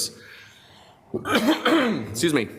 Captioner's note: coughs